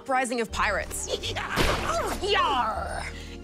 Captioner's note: laughs